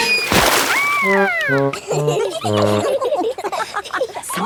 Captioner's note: all laughing